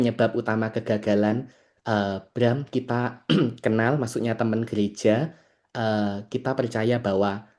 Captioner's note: berdehem